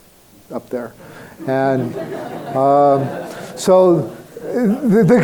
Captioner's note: crowd laughing